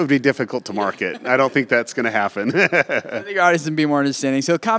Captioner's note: laughs